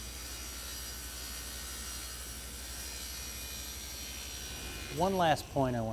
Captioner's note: sound of saw blade cutting material